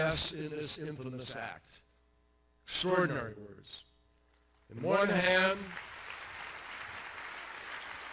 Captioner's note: applause